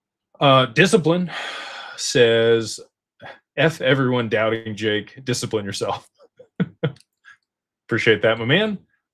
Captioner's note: sighs and gasps